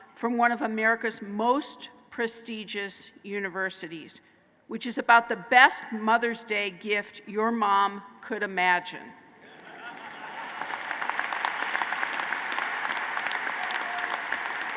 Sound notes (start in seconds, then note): 9.4 laughter and applause